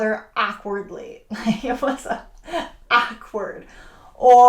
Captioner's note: laughing